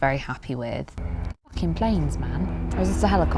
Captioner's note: aviation noises